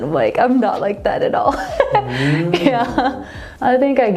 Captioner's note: chuckles